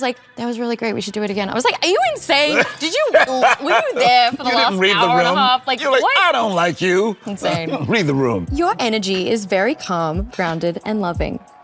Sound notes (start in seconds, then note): 2.5 Colman laughs